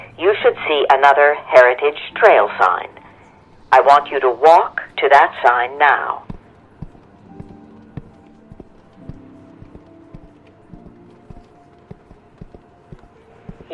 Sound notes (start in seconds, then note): 6.2 footsteps thudding